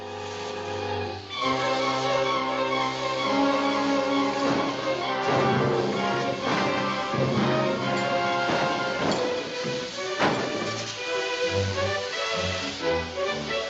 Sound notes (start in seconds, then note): 2.9 hissing; 5.2 pounding on door